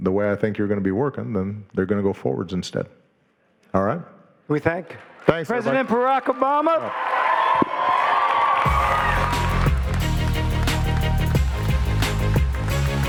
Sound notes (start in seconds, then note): 7.1 audience cheering and applauding; 8.6 upbeat music